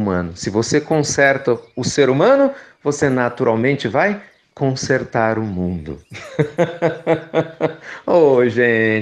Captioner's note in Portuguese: risos